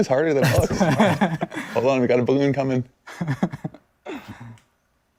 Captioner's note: laughter